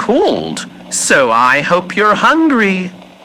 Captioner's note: none